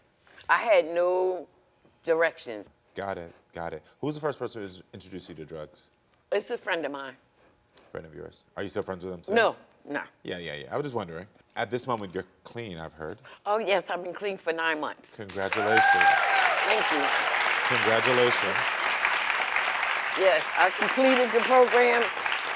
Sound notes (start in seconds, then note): 16.1 audience applauding; 16.1 audience cheering